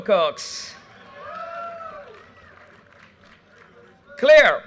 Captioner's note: audience cheers and applause